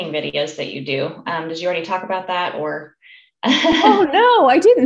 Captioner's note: laughs